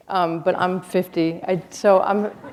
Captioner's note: laughter